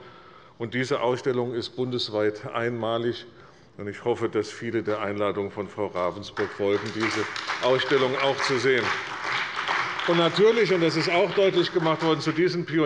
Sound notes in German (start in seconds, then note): 9.0 Beifall bei der CDU und dem BÜNDNIS 90/DIE GRÜNEN